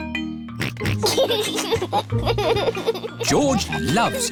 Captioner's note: oinks and laughs